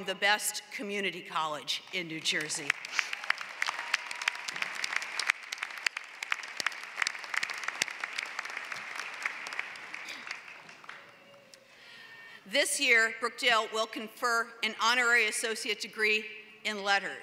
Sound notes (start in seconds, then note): 2.2 applause